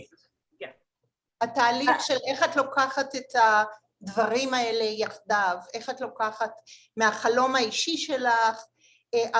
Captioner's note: Hebrew